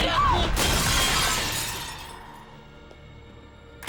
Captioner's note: glass shatters